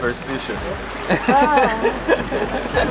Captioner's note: laughing